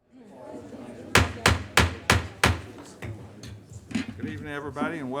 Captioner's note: gavel banging